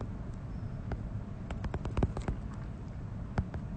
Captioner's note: typing